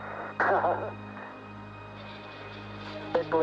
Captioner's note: laughs